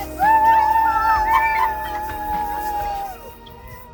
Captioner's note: cheering